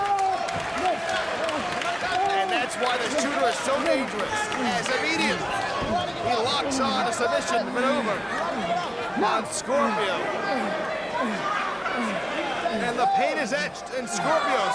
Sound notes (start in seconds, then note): 3.5 crowd cheering